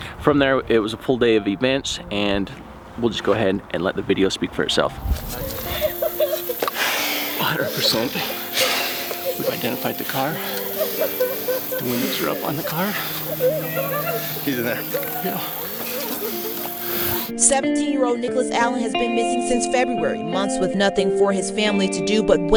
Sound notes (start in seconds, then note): 5.9 woman mourning